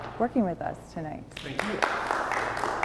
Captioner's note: audience applauds